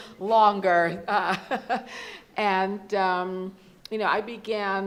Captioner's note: laughs